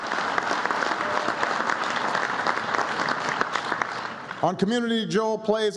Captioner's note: applause